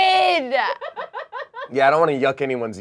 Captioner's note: crew member laughs